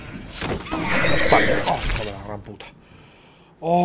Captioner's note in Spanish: Gruñido